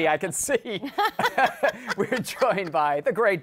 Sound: laughter

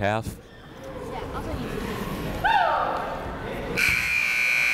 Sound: chatter

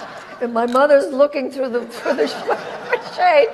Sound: audience laughs

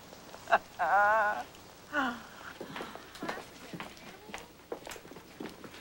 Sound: laughs

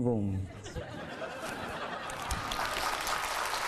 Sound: laughing; clapping hands

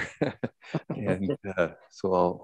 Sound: men laughing

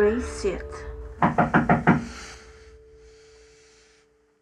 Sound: knocking

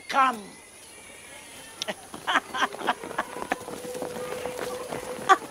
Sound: laughter

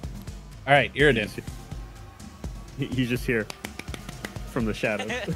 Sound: clapping

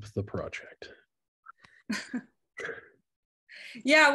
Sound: laughter

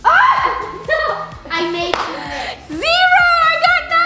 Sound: laughing

